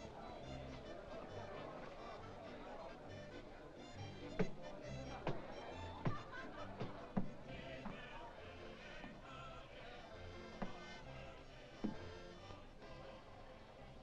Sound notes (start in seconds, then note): 0.2 faint sound of jovial music & singing; 4.3 Charles' footsteps up stairs; 6.6 faint sound of jovial music & singing